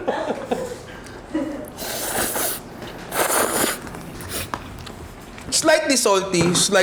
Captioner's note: laughs; slurps